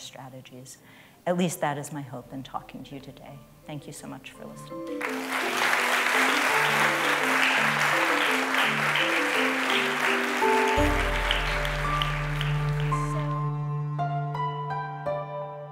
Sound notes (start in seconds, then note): 5.6 applause